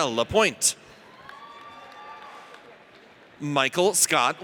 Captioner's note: audience cheers